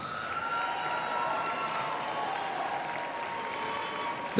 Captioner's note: applause and Cheering